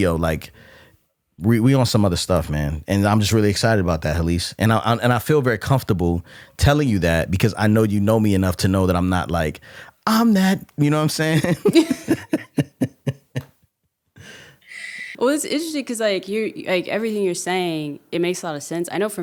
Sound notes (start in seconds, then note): 11.2 laughing